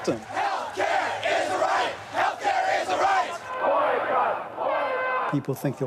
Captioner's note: crowd chants